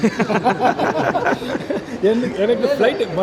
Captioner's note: laugh